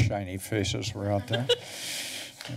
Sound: laughs

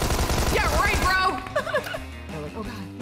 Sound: laughs

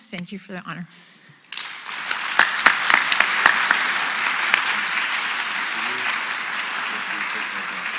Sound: applause

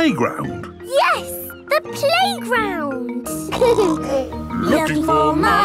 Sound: laughter; snorting

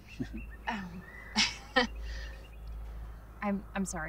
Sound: Amy Chuckles

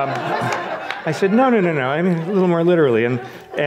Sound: audience laughs

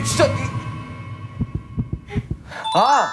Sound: throbbing

